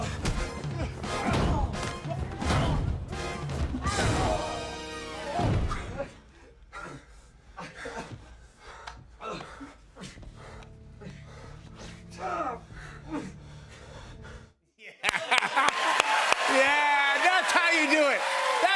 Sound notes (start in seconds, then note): 5.5 gasping